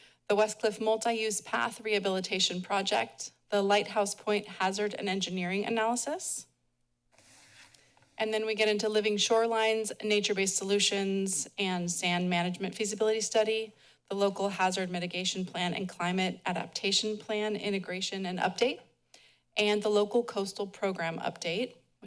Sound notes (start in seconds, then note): none